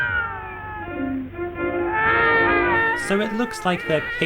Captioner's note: both sobbing